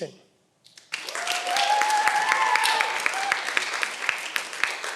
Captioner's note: cheering